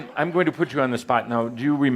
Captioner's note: laughter